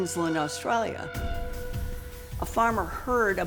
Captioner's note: buzzing